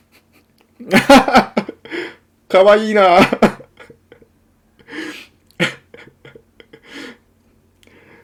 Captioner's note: laughter